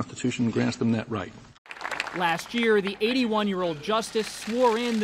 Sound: applause

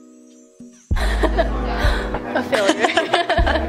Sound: laughter

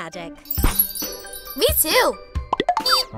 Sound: magical chimes; pop

